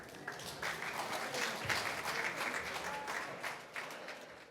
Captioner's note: applause